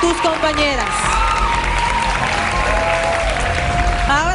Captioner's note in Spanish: aplausos